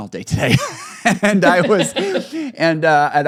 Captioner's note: both laughing